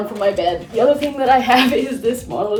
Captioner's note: laughs